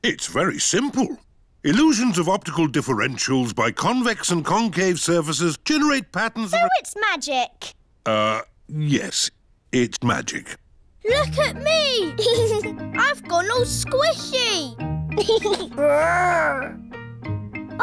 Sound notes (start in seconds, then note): 12.1 giggles; 15.2 giggles